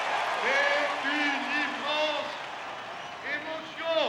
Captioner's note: speaking in French